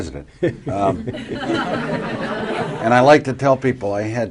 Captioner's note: laughter